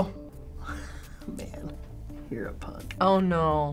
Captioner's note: chuckling